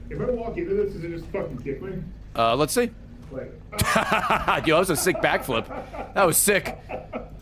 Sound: laughs

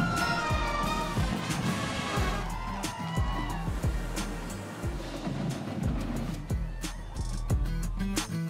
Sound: cheering and Applause

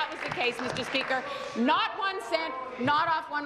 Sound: applause

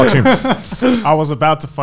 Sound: laughing loudly

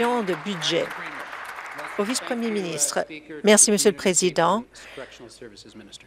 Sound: applause

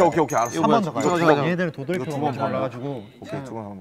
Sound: whispering

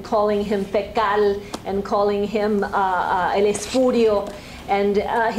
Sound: spanish

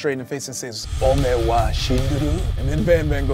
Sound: speaks Japanese

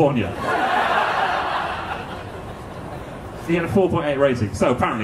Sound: audience laughing

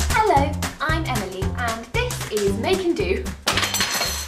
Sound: crash

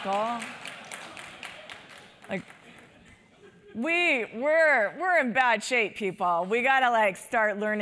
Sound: applause; laugh

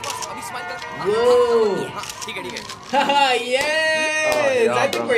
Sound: laughs

